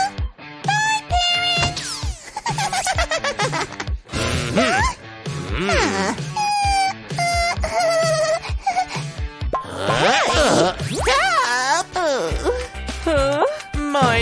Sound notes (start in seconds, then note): 5.3 grunting